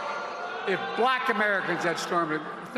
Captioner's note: crowd booing